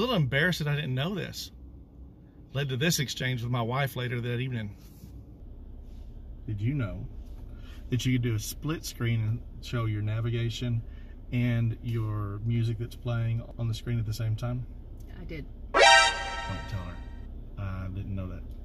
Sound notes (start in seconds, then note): 15.7 alarm